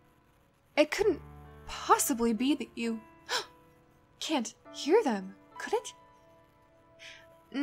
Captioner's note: dramatic gasp